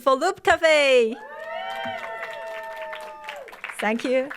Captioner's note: audience cheering and applauding